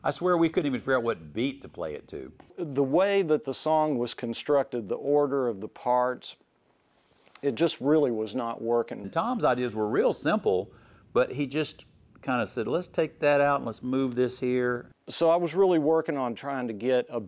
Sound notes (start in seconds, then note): none